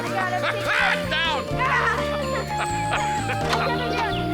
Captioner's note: laughs; all laughing